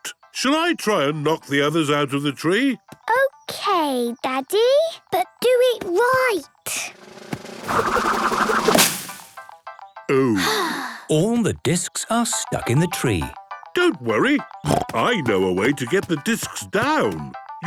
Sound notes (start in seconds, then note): 6.9 drum roll; 10.2 Peppa sighing